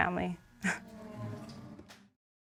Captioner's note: sighs